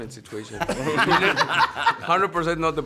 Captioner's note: cast laughing